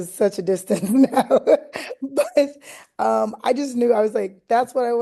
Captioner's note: laughter